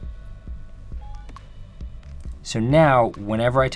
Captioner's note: beep